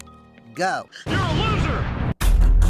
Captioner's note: explosion